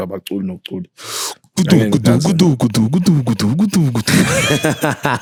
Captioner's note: sound effect; laughing